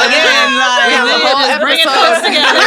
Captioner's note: all laughing